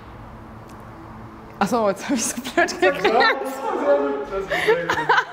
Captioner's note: laughs